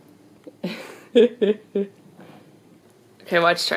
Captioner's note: laughs